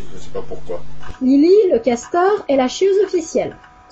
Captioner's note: Lili in French dub